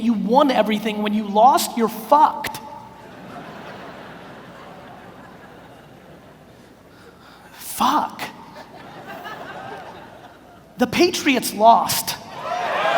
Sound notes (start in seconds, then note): 3.0 audience laughs